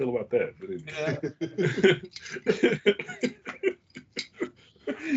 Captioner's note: laughing